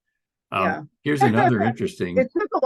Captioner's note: chuckles